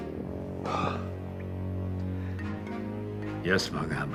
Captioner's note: sighs